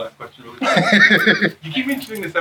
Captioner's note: laughs